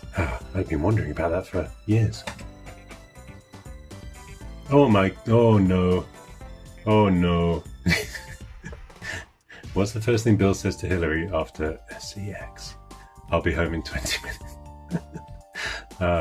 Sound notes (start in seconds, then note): 7.8 laughing; 14.9 laughing